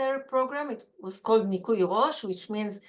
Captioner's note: Hebrew